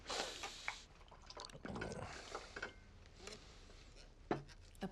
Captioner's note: wine sloshing